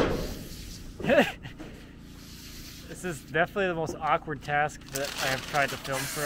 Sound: laughs

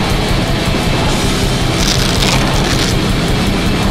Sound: velcro rips

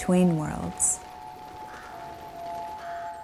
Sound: bird cawing

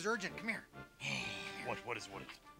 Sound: sighs

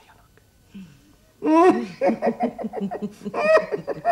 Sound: chuckles gleefully

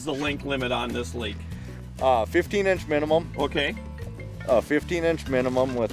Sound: phone ringing

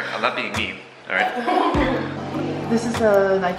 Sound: laughing

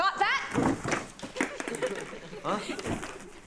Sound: class giggles

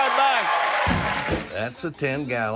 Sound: applause

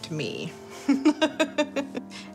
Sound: laughing

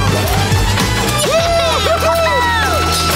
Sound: cheering

